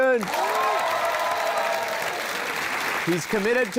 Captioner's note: cheering, applause